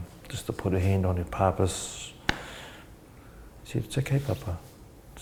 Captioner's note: slaps leg